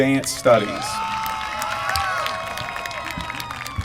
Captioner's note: applause